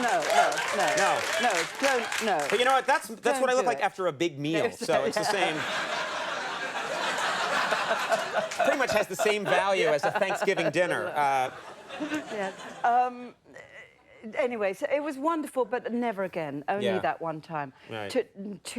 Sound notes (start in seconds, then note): 0.0 audience laughing gregariously; 4.7 audience laughing